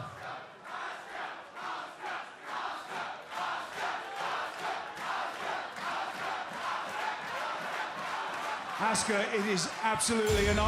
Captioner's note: fans chanting